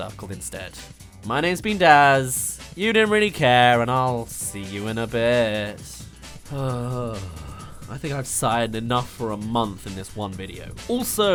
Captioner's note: sigh